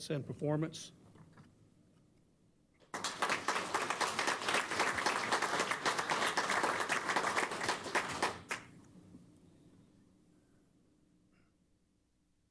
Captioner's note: applause